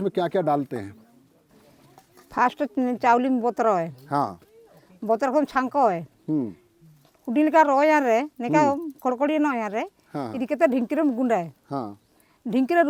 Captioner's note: speaking in Ho